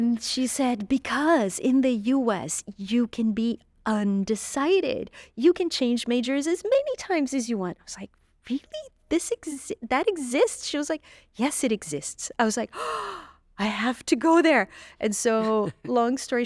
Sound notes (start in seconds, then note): 12.7 gasps